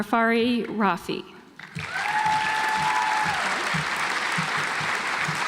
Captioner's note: audience applauds